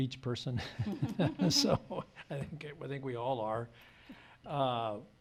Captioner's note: laughs